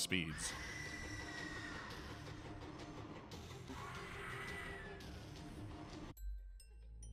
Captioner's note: angry shrieking